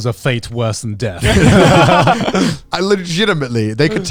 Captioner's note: all laughing